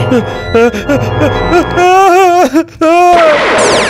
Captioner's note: scared